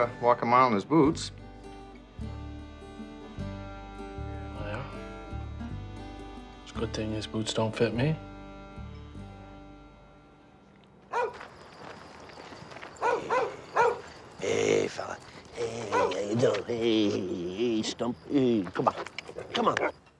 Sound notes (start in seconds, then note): 11.3 barking